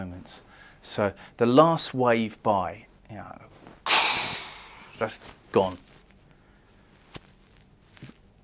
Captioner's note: crash